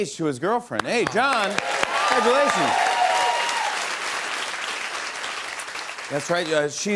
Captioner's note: cheers and applause